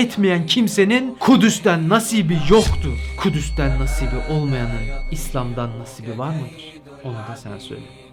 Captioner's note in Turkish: Kuvvetli çarpa sesi